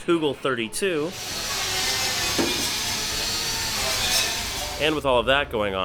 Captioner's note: grinder doing it's thing noise